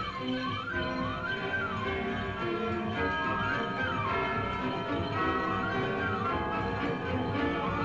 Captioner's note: upbeat music; church bells ringing